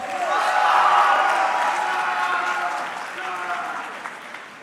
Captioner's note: audience cheering